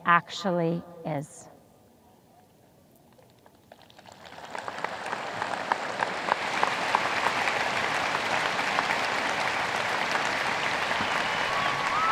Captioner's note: audience applause